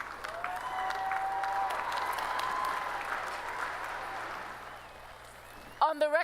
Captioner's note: applause